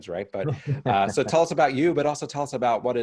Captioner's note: laughs